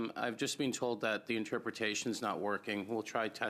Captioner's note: speaking in French